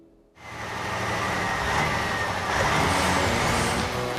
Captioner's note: engine Running